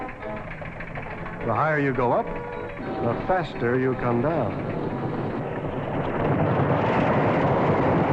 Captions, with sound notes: The higher you go up, the faster you come down. (rattling)